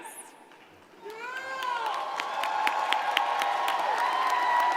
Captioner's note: crowd applauding